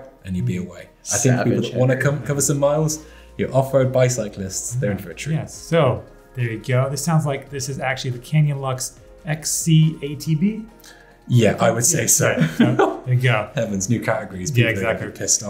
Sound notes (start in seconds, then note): 12.2 laughs